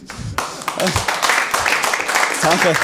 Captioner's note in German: Applaus